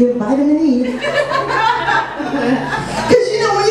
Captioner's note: audience laughs